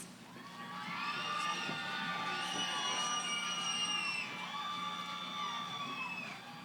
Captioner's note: cheering